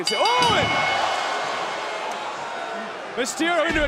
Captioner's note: bell ringing